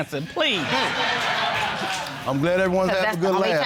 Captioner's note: audience laughing